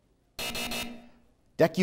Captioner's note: buzzer